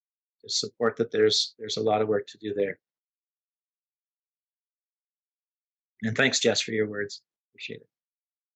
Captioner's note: pause